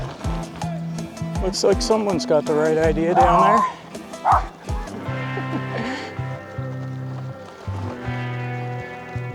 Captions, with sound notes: Looks like someone's got the right idea down there. [little dog barking] [laughing]